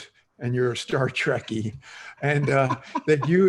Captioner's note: laughter